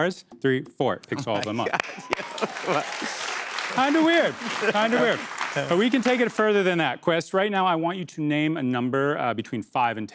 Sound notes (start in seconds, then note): 1.4 applause